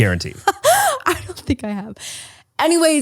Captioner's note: laughs